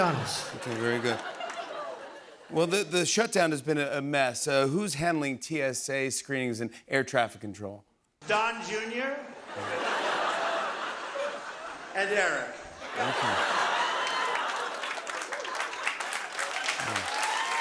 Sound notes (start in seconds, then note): 9.4 laughter; 15.5 cheers and applause